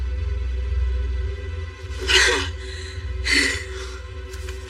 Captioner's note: pantiting